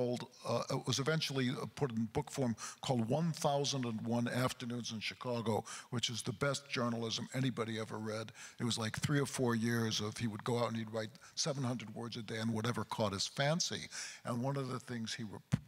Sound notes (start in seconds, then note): none